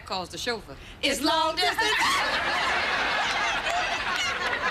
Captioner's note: both laughing